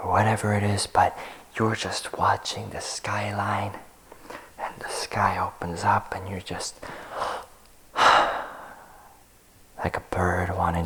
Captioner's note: sigh